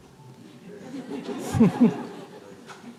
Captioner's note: laughter